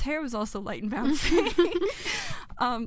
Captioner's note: laughter